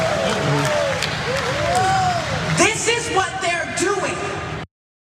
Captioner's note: applause